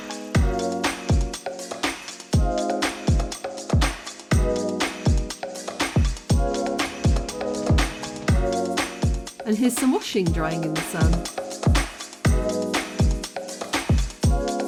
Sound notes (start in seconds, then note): none